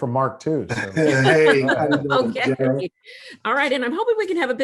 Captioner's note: both laughing